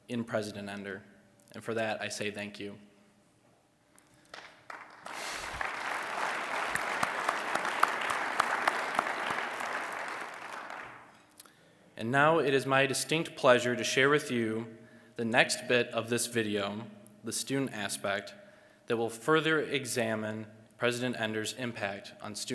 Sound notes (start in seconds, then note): 4.2 applause